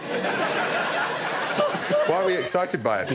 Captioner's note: audience laughing